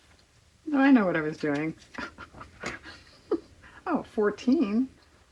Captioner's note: laughs